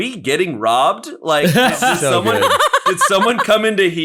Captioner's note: all laughing